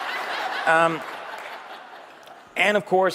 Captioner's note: เสียงปรบมือ